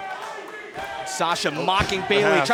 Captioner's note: fans chanting